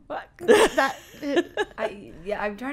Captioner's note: laughing